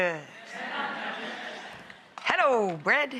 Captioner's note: crowd laughing